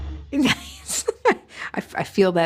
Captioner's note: laughing